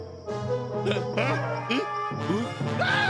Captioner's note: grunting